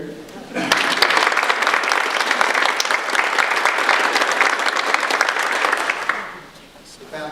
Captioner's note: audience applause